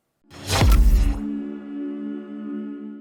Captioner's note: logo whooshes